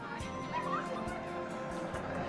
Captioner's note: vehicle approaches